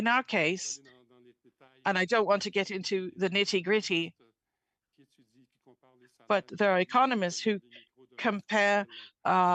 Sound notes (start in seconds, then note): 1.2 speaking French